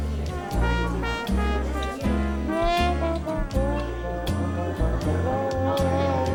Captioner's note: bluesy trumpet music; diner sounds